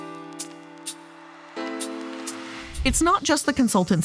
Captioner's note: air whooshing